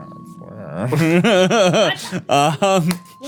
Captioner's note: laughing